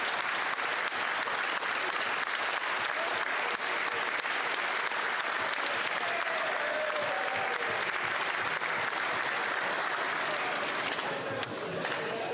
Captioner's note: applause